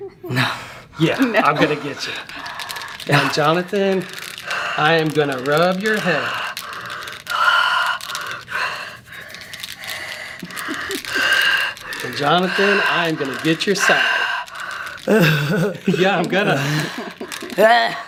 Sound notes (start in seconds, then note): 6.5 toy jingling; 15.1 laughing